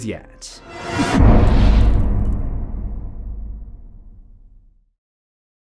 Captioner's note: impact